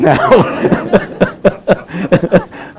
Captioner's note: group laughing